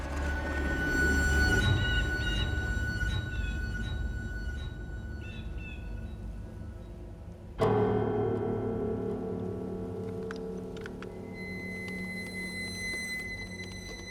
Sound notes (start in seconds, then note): 1.7 bird squawking